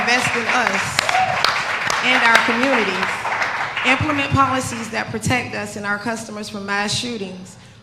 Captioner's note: applause